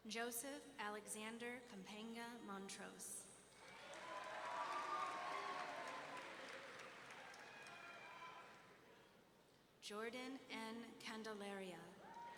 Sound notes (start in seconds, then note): 3.6 audience members cheering